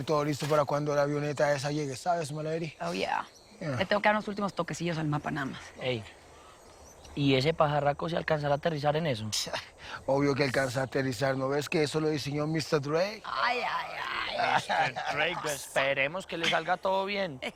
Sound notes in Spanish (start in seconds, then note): 13.2 Exclamaciones